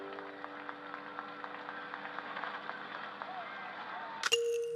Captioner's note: cheering